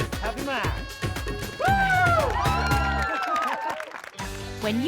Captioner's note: all cheer